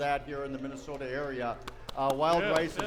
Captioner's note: clapping